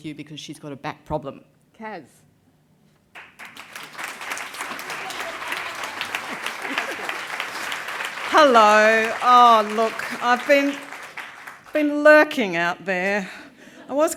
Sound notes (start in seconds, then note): 3.4 applause